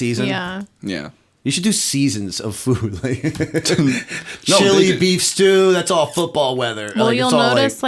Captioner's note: chuckle